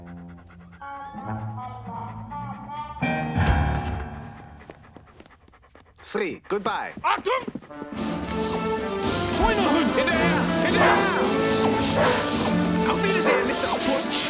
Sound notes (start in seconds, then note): 8.2 speaking german